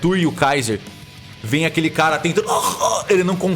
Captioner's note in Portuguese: engasgando